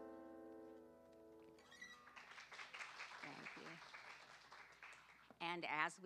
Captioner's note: applause